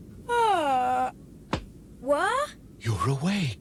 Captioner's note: yawns